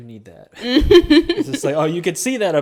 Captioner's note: chuckles